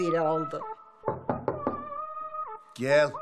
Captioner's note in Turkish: Kapı vurulma sesi